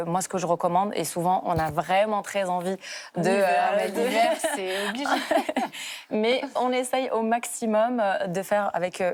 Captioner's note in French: rires